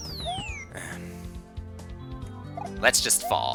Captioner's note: clears throat